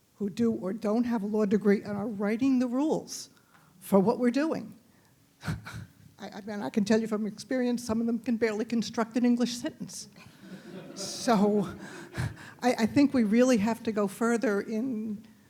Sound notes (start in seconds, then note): 10.3 audience laughing